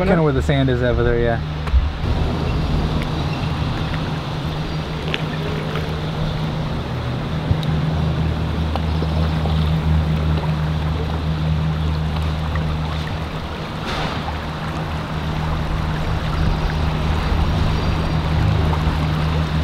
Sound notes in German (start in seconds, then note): 9.6 Flusswasser fließt; 16.3 Insekten zwitschern